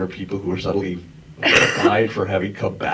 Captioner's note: coughs